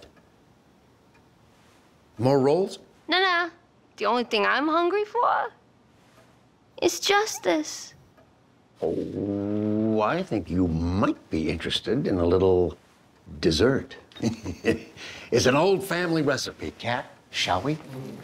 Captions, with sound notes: More rolls? No, no! The only thing I'm hungry for... is justice. Ohhhh... I think you might be interested in a little dessert. *chuckle* It's an old family recipe. Kat? Shall we.